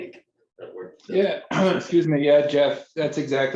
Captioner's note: clears throat